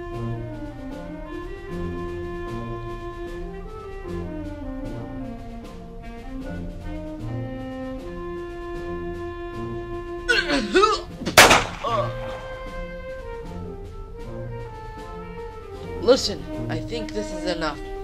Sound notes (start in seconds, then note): 10.3 groaning; 11.2 pistol shot